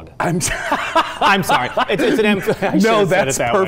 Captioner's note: laughing